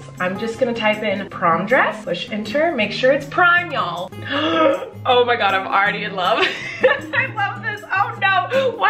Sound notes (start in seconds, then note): 4.2 gasps; 6.4 laughs